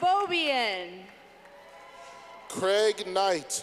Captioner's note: clapping